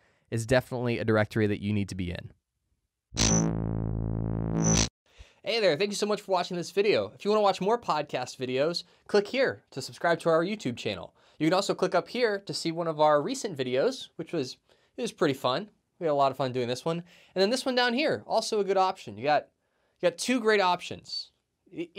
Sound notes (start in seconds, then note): 3.1 electronic buzzing